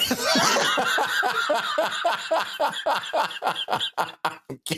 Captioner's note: laughing